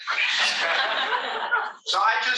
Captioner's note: all laughing